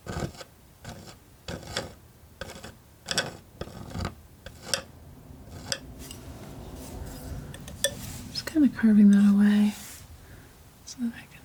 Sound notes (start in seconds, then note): 1.0 tapping